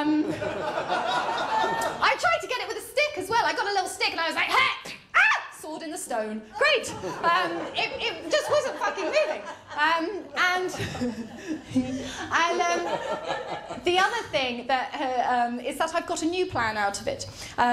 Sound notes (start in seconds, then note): 0.2 laughter; 5.2 screams; 9.7 laughter